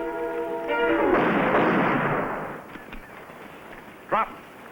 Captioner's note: gun firing